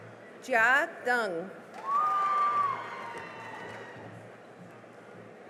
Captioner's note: cheering and applause